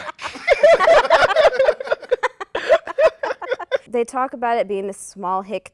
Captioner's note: laughter